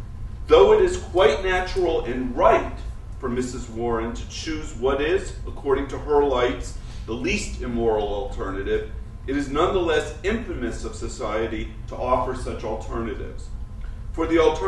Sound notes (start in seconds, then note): none